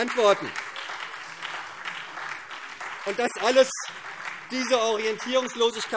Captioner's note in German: Beifall SPD